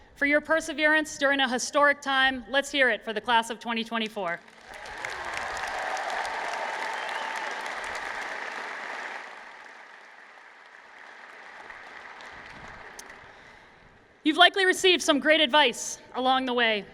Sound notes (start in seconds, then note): 4.5 cheers and Applause